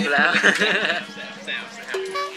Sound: laugh

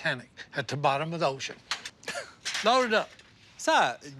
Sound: laughs

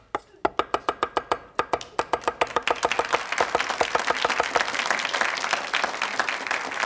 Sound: audience applauds; knife chopping

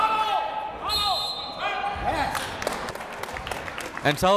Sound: whistle

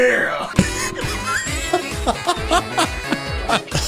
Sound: laughing

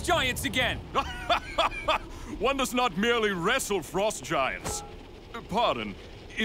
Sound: heartily laughs

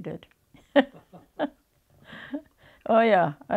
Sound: both laugh

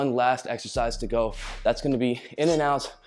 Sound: whooshing sound

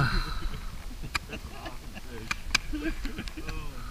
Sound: laughing with joy

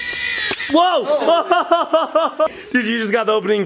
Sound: laughs

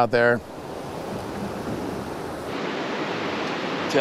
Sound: water rushing

